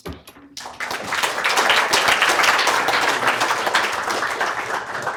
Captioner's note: applause